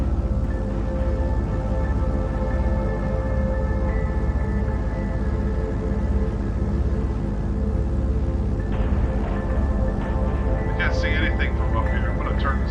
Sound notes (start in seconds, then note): 0.8 pensive music continues; 3.7 airplane engine rumbling